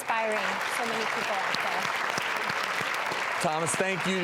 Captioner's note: audience applauds